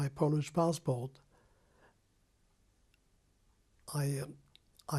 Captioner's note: pauses for 3 seconds